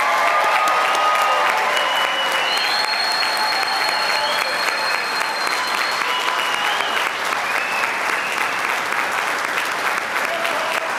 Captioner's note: applause